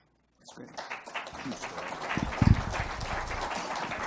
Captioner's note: applause